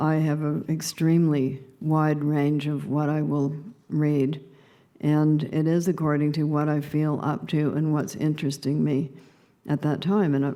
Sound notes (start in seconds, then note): none